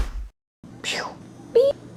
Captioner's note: woosh!